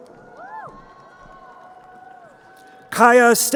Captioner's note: crowd cheering